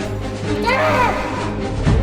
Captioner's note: war music; aaaaggh!!